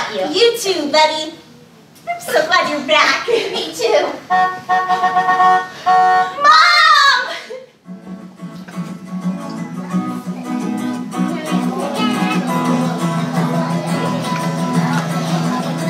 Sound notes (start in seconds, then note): 4.2 horn honking; 7.8 guitar music